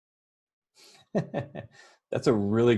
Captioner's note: laughs